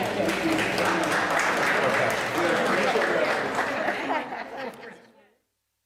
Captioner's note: laughter